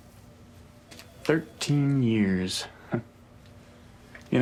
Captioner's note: chuckles